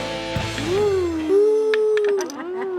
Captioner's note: laughs